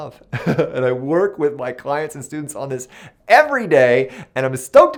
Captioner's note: laughs